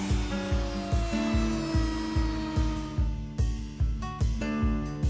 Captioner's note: router buzzing